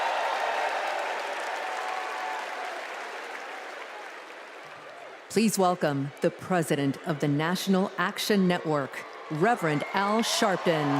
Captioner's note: cheers and applause